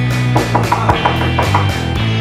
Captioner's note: knocking continues